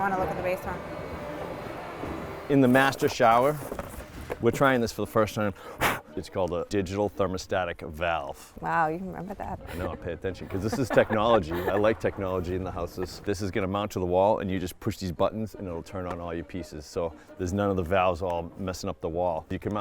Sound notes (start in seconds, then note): 5.6 puff blowing; 9.3 giggling